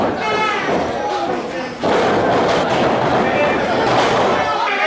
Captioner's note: crowd chattering